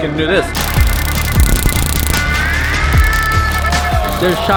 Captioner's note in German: schnarrendes Geräusch von Messern